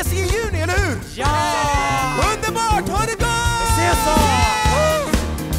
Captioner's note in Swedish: jubel